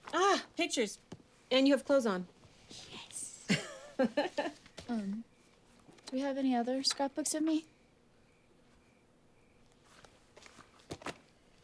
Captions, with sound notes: Ah, pictures. And you have clothes on. - Yes. (Suzie laughs) - Um, do we have any other scrapbooks of me?